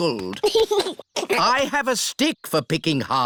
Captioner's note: giggles